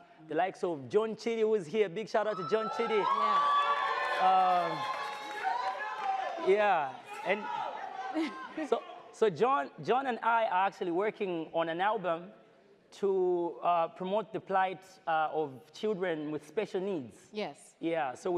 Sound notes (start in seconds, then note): 2.2 audience cheers; 5.7 shouting from crowd